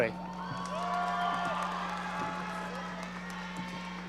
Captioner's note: audience cheering